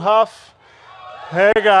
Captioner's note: cheers and applause